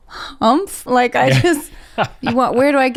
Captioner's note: laughs